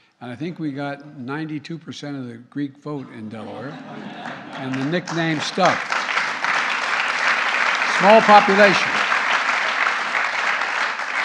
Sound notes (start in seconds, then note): 3.3 laughter; 4.2 applause